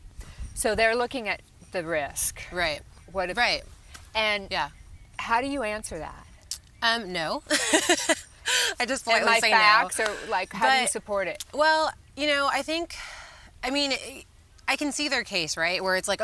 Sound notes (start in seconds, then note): 7.5 laughs